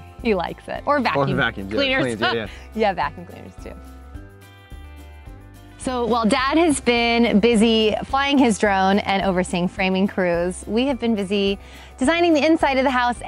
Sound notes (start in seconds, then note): 2.8 laughs